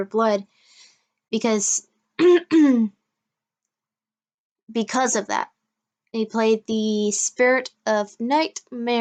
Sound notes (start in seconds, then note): 2.2 clearing throat